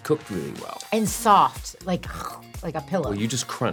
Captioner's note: crunching noise